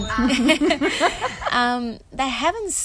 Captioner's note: both laughing